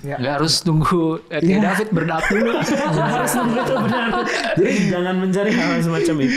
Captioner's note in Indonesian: tertawa